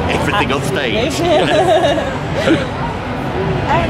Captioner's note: laughs